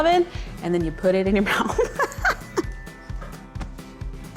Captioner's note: laughs